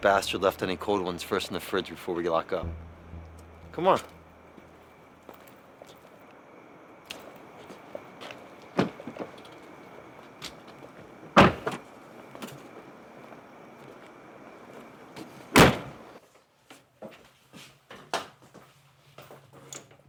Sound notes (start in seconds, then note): 11.4 car door thudding; 15.6 trunk door thudding